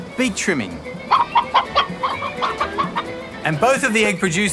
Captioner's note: clucking